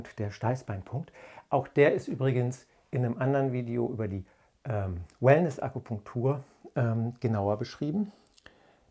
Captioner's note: in german